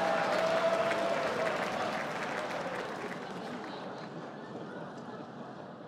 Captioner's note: laughter and applause